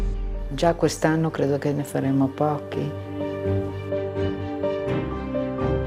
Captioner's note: speaking in foreign language